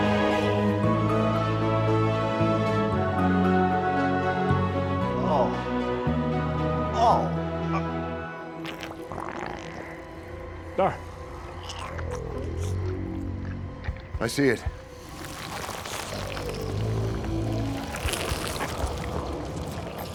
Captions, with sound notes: (Walter groans) (eerie music) - What? - I see it. (eerie music continues)